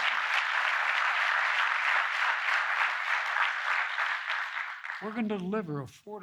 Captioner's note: applause